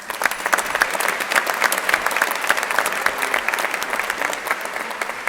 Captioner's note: crowd applauding